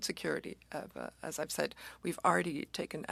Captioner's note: speaking French